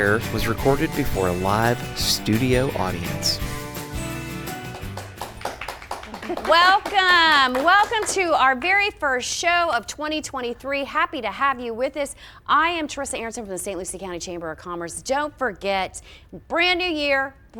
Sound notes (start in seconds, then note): 4.3 audience clapping